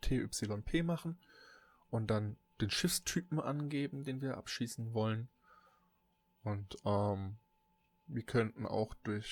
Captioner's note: ehm